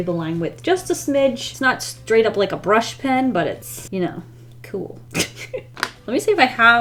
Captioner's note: laughs